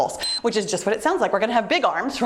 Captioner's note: timer beeps